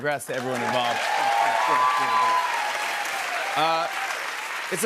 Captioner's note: cheers and applause